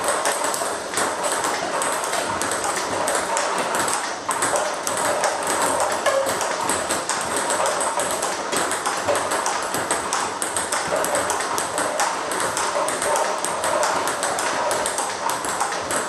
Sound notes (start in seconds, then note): 0.3 ball ping pong hitting continues; 9.3 ball ping pong hitting continues